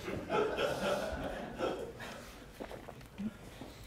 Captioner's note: laughs